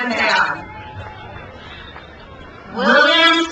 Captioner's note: crowd cheers